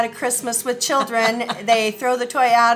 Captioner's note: laughing